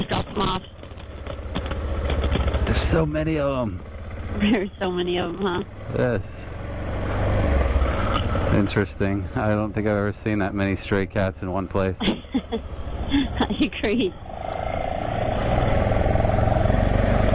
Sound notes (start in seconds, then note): 12.9 laughing